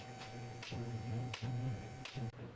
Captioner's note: drill whirring